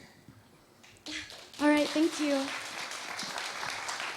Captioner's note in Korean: 청중 박수